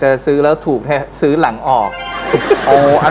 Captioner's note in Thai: เสียงหัวเราะ